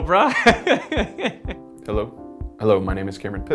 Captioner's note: laugh